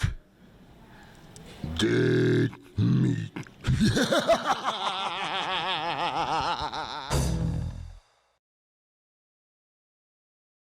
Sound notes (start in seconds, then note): 2.4 laughs; 7.0 logo thuds